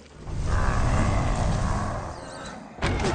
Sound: snarling; groaning

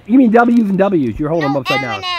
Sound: voiceover

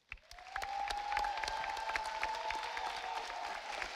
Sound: audience applauding

